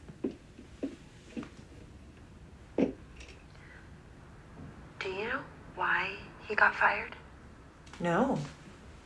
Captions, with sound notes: (footsteps) (door closing) Do you know why he got fired? - No.